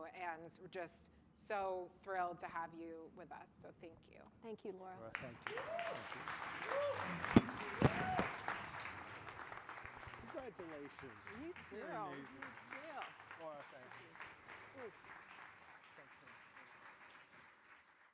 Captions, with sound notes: And we're just so thrilled to have you with us. So thank you. - Thank you, Laura. - Laura, thank you. (audience applauding) Congratulations. - You too. - You're amazing. - You too. - Laura, thank you. (audience applauding)